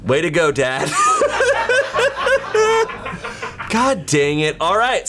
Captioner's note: colleagues laughing